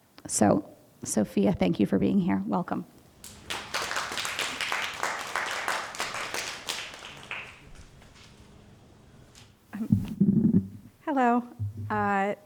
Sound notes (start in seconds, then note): 3.2 audience applauding